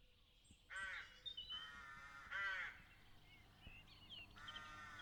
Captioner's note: crow calls